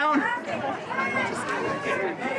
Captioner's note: chatter